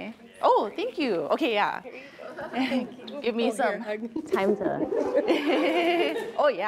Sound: chuckle

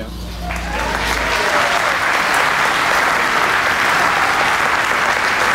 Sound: audience applauding

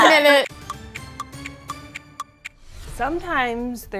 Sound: clock ticking

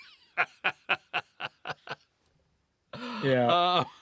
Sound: laughter

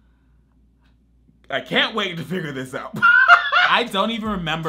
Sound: laughs

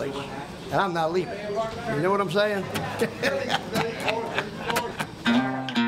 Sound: laughs

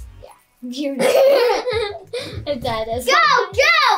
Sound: laughing

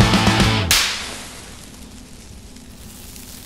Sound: rock music; pop

